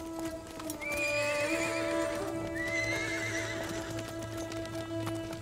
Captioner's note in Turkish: At kişneme sesi; At nalı sesi